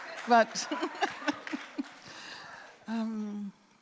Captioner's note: applause; laughs